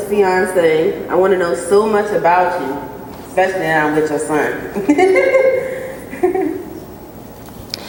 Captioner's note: laughter